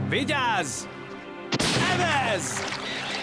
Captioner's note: gunshot